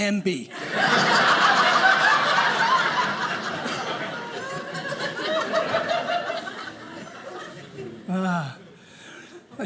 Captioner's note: audience laughing